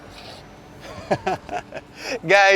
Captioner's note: laughs